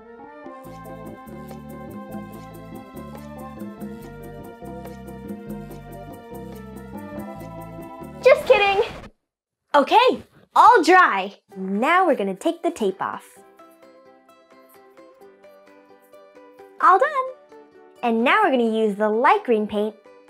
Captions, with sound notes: (pleasant music) Just kidding. (record scratching) Okay. All dry. And now we're gonna take the tape off. (pleasant music) All done. And now we're gonna use the light green paint